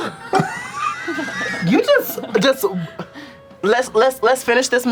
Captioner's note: laugh